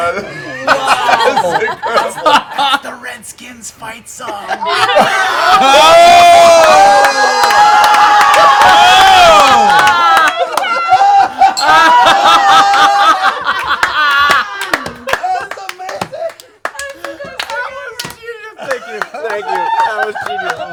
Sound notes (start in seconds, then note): 0.6 whispers; 4.5 yelling